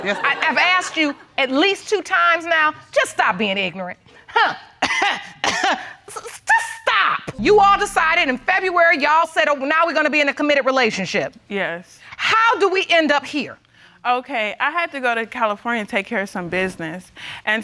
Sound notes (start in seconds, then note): 4.4 coughing